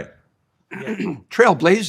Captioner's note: clearing throat